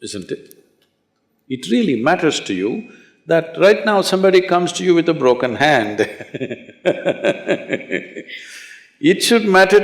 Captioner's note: laughs